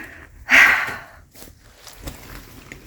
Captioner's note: sigh